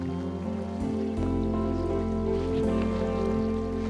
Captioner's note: phone vibrating